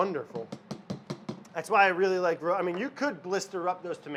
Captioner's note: object taps on blender